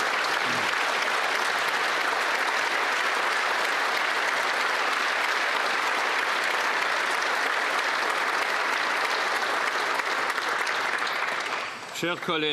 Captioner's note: some Applause